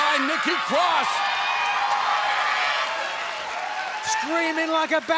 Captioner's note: cheers and applause